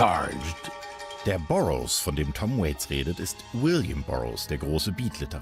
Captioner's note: German narration